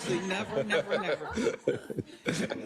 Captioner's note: laugh